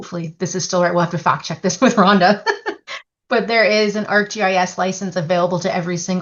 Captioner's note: laughs